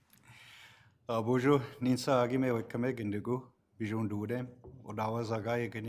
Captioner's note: speaks foreign language